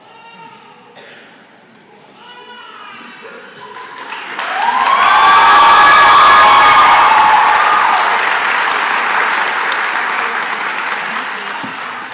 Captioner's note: cheering and applause